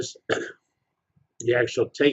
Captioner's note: cough